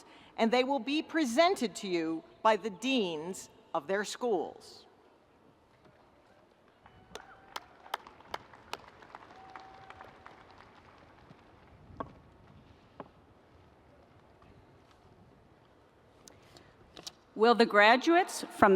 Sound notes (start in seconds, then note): 7.1 audience applauding